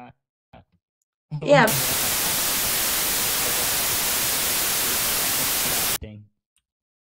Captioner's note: static